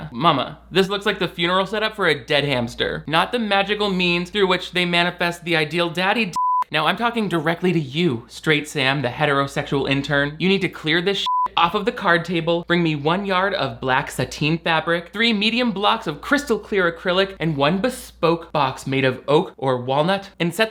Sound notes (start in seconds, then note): 6.3 beep; 11.2 beep